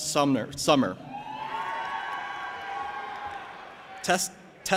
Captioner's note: audience applauding and cheering